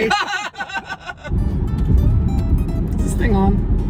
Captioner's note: laughing